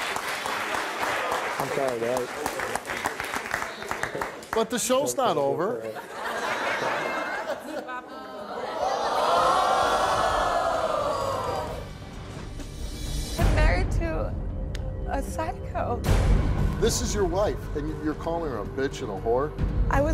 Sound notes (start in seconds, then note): 6.7 audience oohing; 12.5 dramatic music